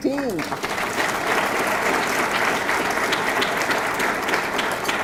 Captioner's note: audience clapping